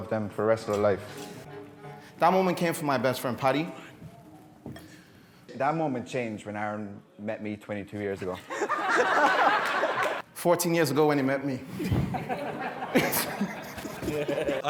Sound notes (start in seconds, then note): 8.3 guests laughing; 12.1 laughing; 13.4 guests laughing